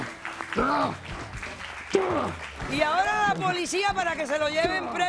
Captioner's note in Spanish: Aplausos